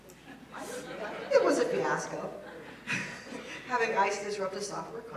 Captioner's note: laugh